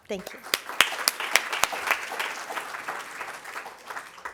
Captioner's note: applause